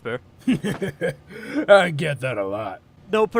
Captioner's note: chuckles